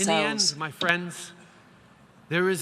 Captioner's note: speaking English